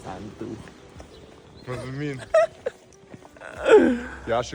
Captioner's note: laughs